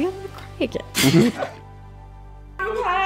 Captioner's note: giggling